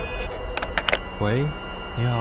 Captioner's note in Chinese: 接電話聲